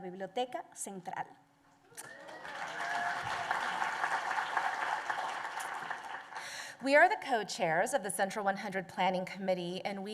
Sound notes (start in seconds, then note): 0.0 Spanish language; 2.0 applause